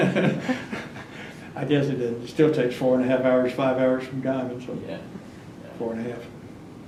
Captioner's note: laughs